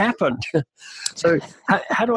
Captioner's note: laughing